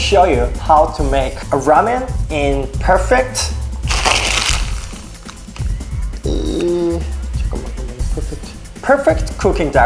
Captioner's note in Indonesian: bergumam dalam bahasa korea